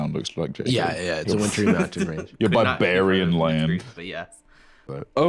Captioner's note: laughs